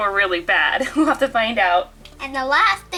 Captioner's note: chuckles